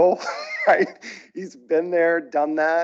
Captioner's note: chuckles